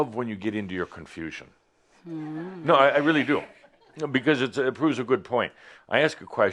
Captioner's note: some chuckles